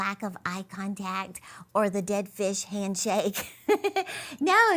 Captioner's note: chuckles softly